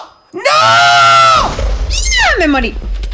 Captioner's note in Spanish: explosion